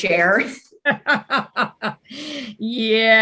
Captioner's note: laughing